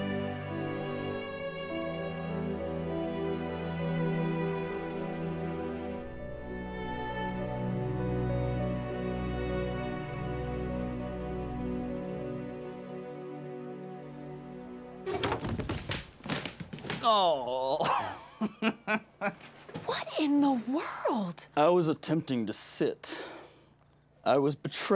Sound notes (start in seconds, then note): 14.9 stumbling; 17.4 drunken laughter